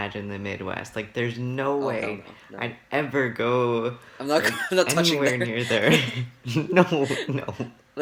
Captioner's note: laughs